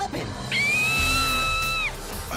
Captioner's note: sari screaming